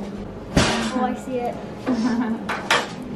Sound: loud banging; laughing

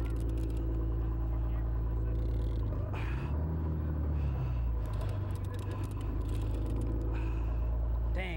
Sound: heavy breathing

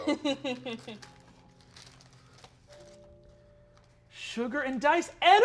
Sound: laughing

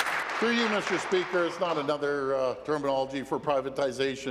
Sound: applause

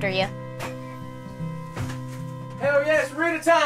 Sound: door thumping

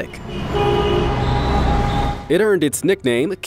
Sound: cars hooting

